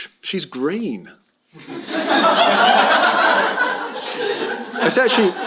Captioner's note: laughter